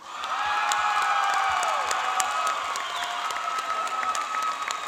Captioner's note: cheering and applauding